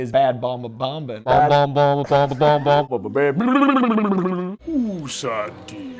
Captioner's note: blubbering